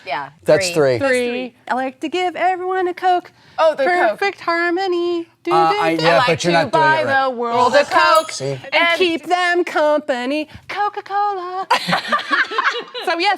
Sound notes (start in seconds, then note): 8.1 sighs; 11.7 laughs